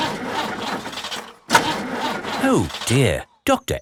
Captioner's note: engine sputtering